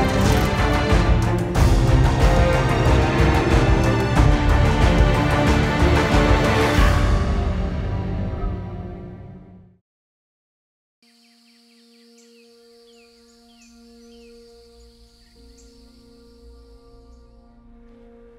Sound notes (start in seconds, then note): 11.0 birds chirping; 11.1 calm music